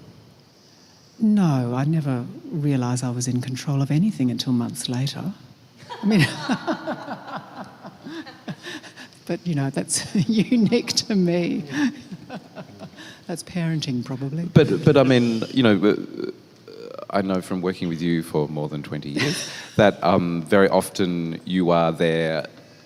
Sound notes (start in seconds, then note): 5.8 laughs